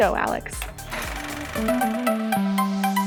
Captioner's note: film reel rolls; bubbly music